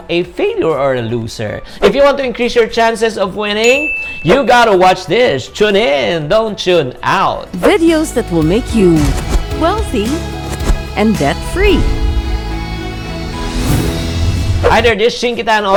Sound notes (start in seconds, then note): 3.6 bell